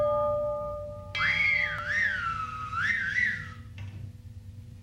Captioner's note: loud whistling